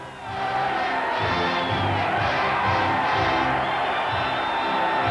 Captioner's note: cheering